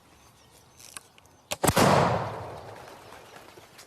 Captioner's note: gunshot